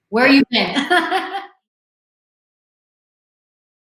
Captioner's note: laughs